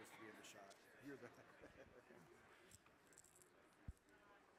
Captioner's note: man laughing